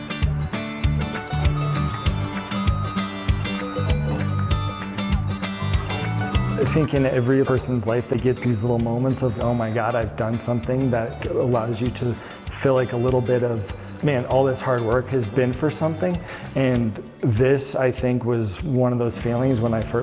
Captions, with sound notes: [MACHINE BACKING UP] I think in every person's life they get these little moments of, oh my god I've done something that allows you to feel like a little bit of man, all this hard work has been for something. And this, I think, was one of those feelings